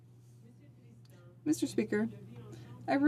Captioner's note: speaking French